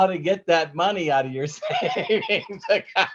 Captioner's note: laughing